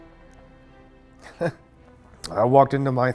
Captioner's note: chuckles